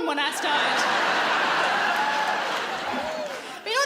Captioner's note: laughing